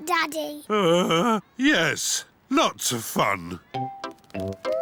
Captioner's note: groans